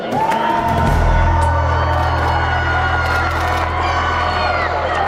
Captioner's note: people cheering